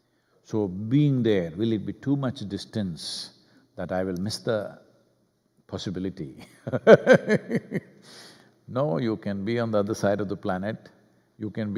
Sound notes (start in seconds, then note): 6.7 laughs